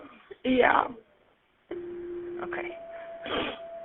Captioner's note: beeping